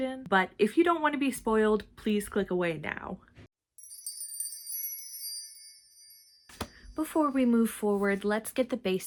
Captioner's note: sparkle noise